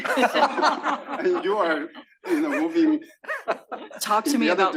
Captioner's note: laugh